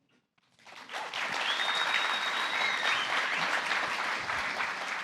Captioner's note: applause